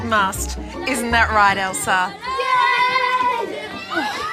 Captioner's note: children shout